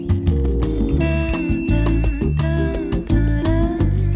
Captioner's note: spunky music; bell chiming